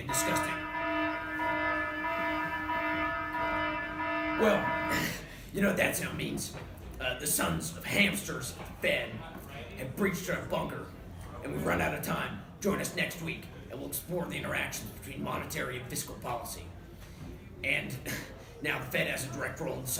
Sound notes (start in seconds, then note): 0.0 loud alarm